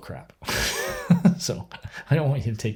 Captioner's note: laughs